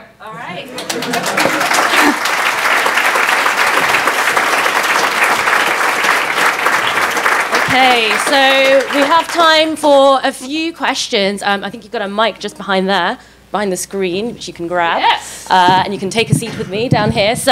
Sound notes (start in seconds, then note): 1.3 clapping